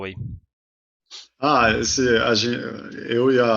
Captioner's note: unknown elvish language